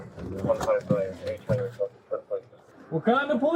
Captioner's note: radio chatter